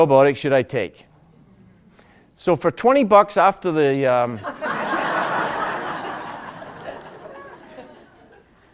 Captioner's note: laughter